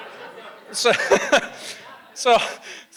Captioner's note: audience laughs; laughs